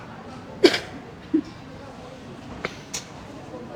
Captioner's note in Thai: เสียงหัวเราะ